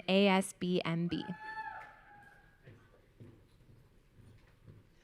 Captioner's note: audience cheering